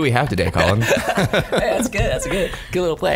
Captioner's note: laughs